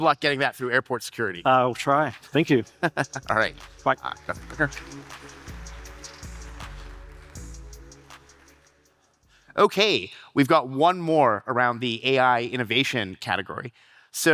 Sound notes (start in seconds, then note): 2.6 chuckles; 5.8 audience applauding